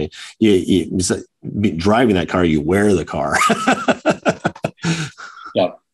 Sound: chuckles

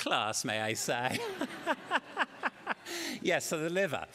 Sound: laughter

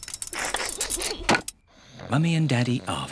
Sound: oink!; laughs

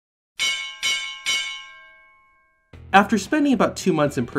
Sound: bell ringing

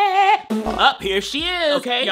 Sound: laughing

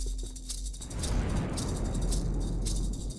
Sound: another big boom

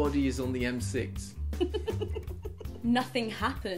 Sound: laughing

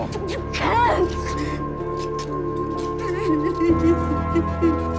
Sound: sobbing; sobs

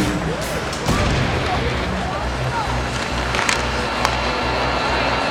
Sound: players talking to each other

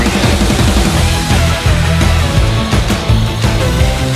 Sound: saw whizzes

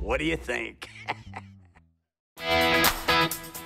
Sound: laughs

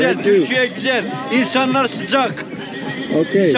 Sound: speaking Turkish

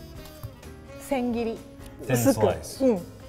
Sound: speaks in foreign language

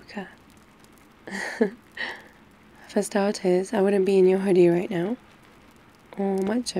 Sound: laughs

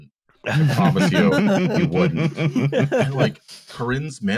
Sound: laughter

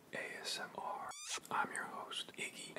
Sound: Smooch

